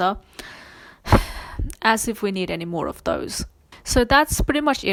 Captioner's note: sighs